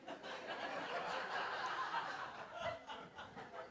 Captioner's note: crowd laughing